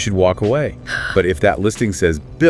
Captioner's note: sighs